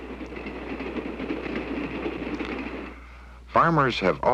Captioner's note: train noises